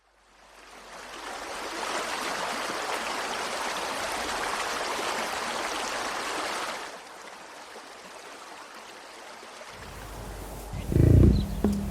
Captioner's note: nature sounds